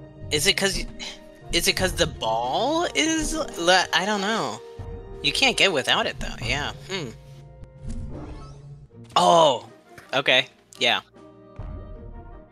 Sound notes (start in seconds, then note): none